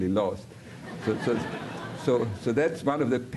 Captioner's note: audiencia riendo